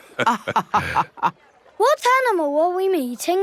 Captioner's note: both laughing